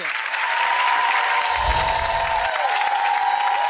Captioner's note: audience cheering